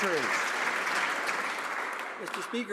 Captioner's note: some Applause